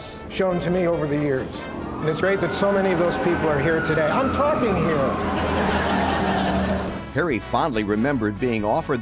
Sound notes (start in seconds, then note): 4.0 sirens; 4.4 crowd laughing